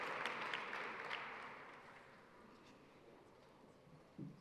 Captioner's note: applause